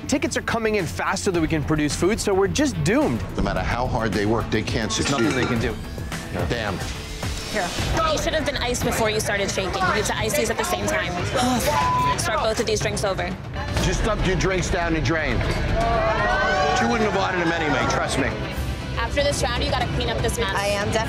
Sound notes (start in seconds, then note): 11.8 beep; 15.6 patrons protesting